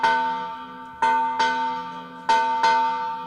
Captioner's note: bell dings